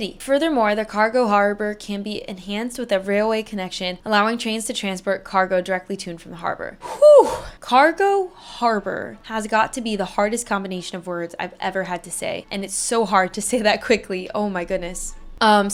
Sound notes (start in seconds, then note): 6.8 exasperated sigh